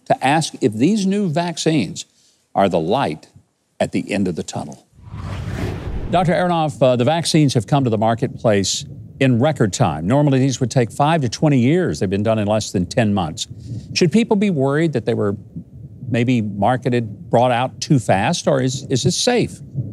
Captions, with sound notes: to ask if these new vaccines are the light at the end of the tunnel. (swooshing) Dr. Aronoff, the vaccines have come to the marketplace in record time. Normally these would take five to 20 years! They've been done in less than 10 months. Should people be worried that they were maybe marketed, brought out too fast, or is it safe?